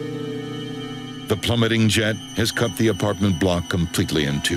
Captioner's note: jet whooshing